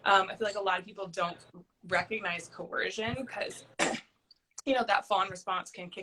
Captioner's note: clearing throat